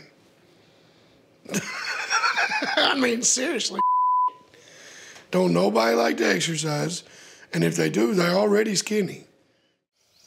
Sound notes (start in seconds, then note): 1.5 laughs